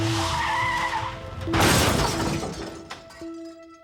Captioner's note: crashing